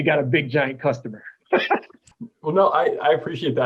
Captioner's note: laughter